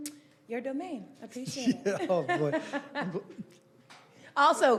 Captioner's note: laughing